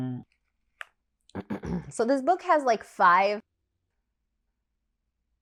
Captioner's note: clearing throat sound